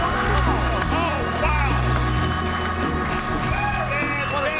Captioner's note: audience cheering and applauding